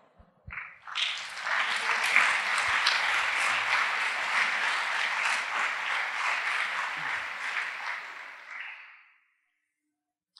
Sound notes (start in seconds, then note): 0.8 applause